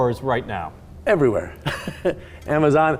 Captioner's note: laughing